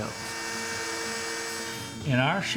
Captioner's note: machinery humming